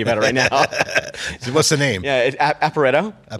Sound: both laugh

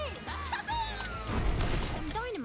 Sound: explosion!

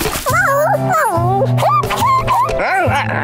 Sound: meowing; squeaking

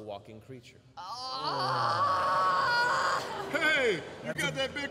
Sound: anguished sounds

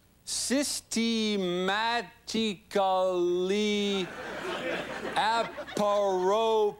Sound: sounding out each syllable

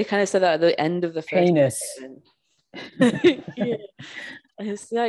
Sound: laughs

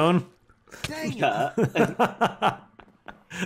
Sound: laughing

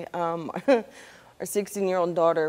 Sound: chuckling

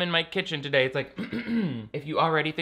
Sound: clears throat

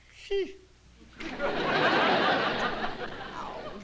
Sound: laughter

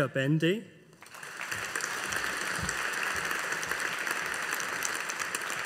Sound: audience applauding

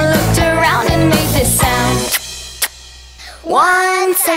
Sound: kisses

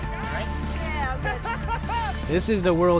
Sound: laughing

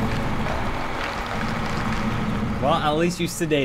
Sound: in game, gross crunching sounds

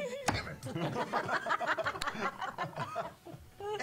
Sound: all laugh

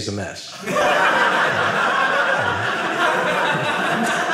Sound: audience laughing

